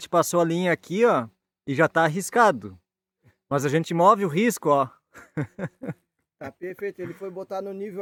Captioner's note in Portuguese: risadas